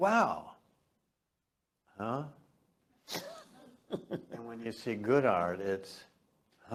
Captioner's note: laugh